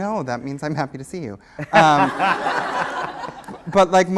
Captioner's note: laughter